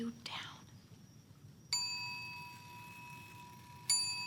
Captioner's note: clock chimes